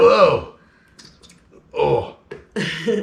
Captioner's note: gas bubbles escaping bottle